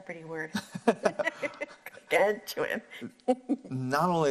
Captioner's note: laughs